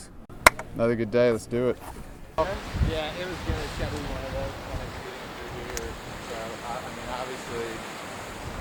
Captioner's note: waves crashing